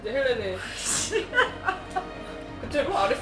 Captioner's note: laughing